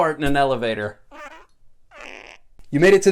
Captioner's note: fart noise